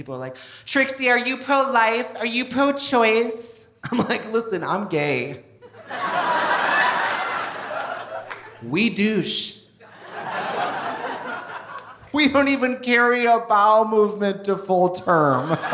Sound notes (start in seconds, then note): 5.6 audience laughing; 9.8 audience laughing